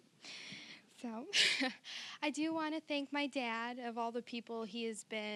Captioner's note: chuckling